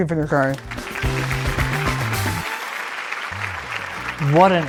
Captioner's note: applause